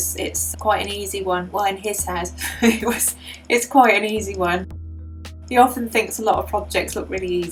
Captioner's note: laugh